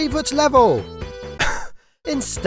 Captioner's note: coughs